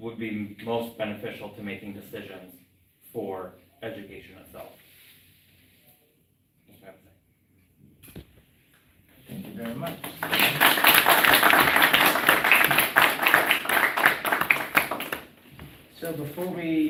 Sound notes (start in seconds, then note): 15.1 applause